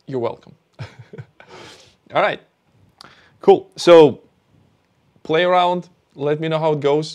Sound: laughs

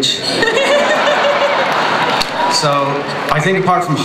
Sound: laughter

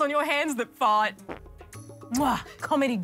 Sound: farts

